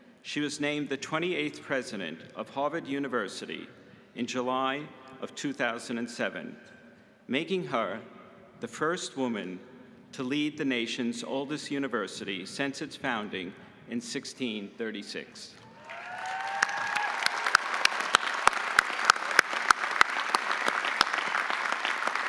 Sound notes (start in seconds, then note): 15.7 audience applauding; 15.7 audience cheering